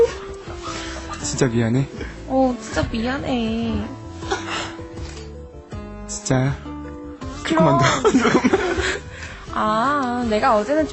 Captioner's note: sigh